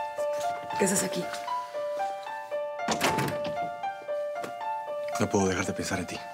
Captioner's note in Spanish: ruido al entrar